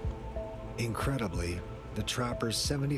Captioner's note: voiceover